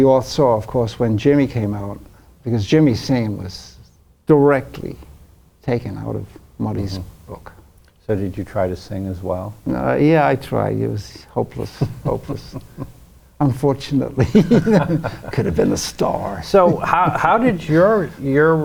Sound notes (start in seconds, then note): 14.1 laughs